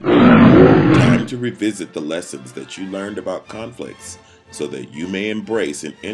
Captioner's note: roar